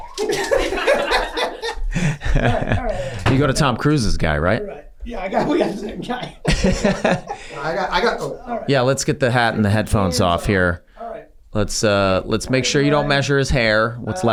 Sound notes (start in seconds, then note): 0.0 gang laughing; 6.4 Glenn laughs